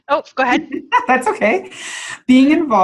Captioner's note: laughs